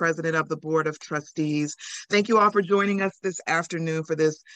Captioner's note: speaks Spanish